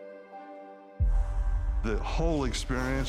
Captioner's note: breathe sound